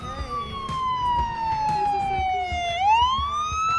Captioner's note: sirens